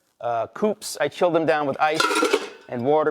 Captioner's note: ice clunking